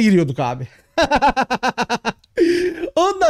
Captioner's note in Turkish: Gülüyor